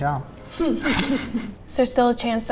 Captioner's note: laughs